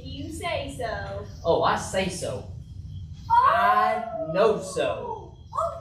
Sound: coyote howling

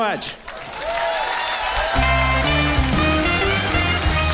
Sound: audience applauding; upbeat music

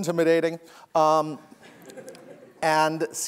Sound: laughter

